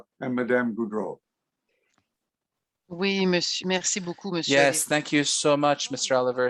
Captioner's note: speaking French